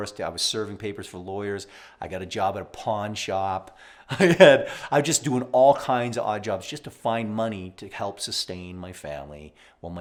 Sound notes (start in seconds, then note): 4.1 laughs